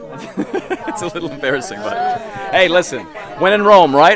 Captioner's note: chuckles